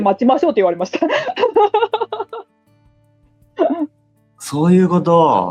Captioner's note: laughs